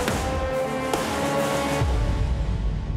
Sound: gunshots

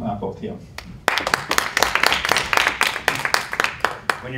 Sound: applause

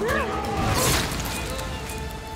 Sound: Kılıç sesi

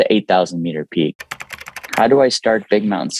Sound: keyboard clicking

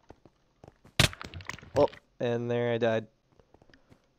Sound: death noises

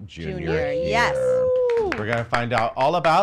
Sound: applauds

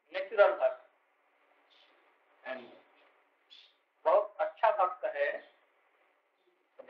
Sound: Hindi

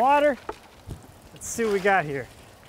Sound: water splashing

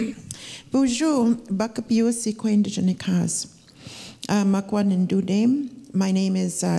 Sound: speaking Ojibwe

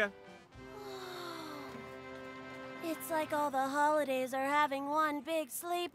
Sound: sighs

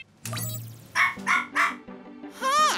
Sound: robotic barking

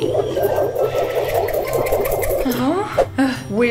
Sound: legs whirring

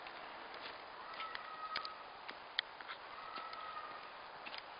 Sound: children yelling

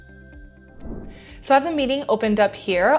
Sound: air whooshing

